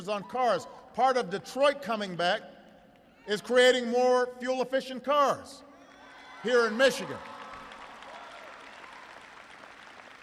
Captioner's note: applause